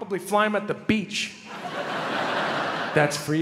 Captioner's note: crowd laughs